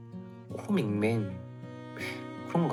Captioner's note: nasal voice